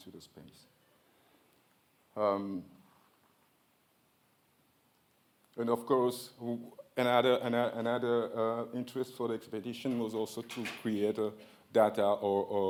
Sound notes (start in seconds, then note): none